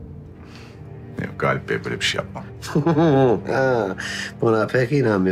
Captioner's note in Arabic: يضحك بيير